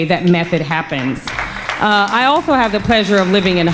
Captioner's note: crowd applauds